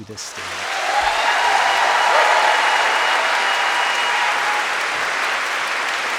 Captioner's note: crowd cheering; crowd clapping